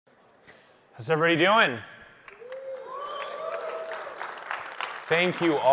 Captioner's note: applause